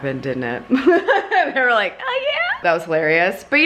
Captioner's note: laughs